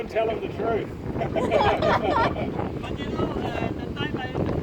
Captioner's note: laughs